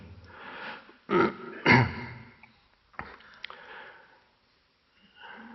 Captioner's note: clearing throat